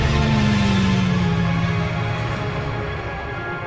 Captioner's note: ship flyby